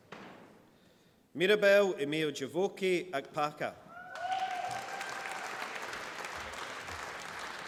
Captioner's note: applause